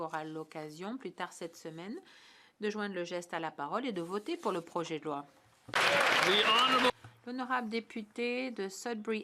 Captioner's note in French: voix de l'interprète